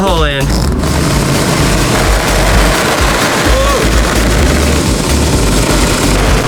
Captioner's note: insulation hose burbles; machine roaring